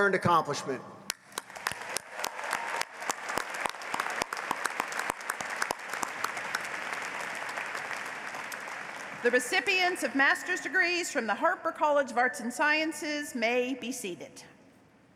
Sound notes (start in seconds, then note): 7.7 applause